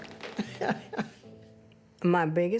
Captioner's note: laughs